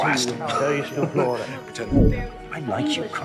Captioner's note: speaking foreign language